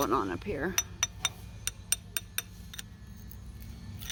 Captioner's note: tapping